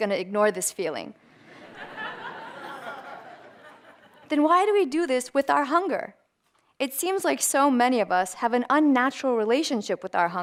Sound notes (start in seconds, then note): 1.4 audience laughter